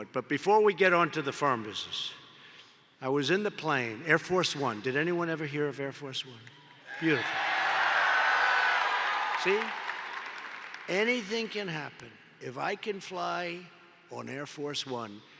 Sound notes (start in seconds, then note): 7.8 applause